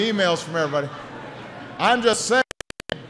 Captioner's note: laughter